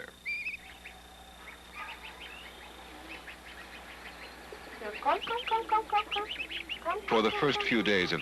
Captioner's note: birds Whistling, Cawing, Researcher Cawing